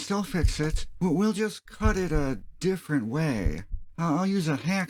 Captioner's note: heartbeats